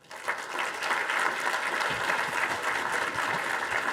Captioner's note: audience applauding